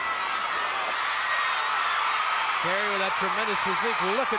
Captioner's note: audience cheering